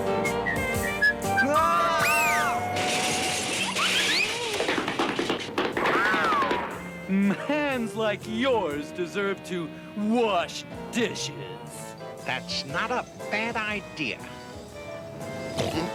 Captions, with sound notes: - [WHISTLING] - AAH! [CRASH] - HANDS LIKE YOURS DESERVE TO WASH DISHES. - THAT'S NOT A BAD IDEA.